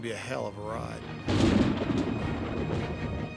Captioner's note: thunder crashes